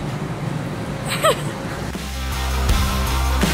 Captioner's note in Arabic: تضحك; موسيقى إيقاعية مشرقة